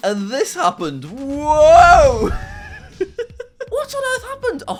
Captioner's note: laughs